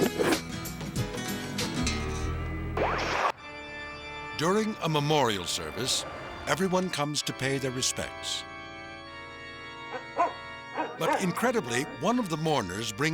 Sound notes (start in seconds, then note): 0.3 upbeat music; 8.8 solemn organ music; 10.7 dog barking